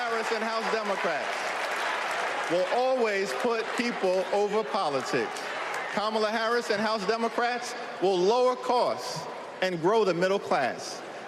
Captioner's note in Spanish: Aplausos